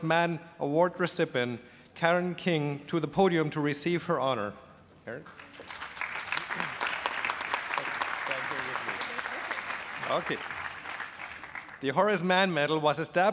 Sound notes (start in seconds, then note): 5.2 applause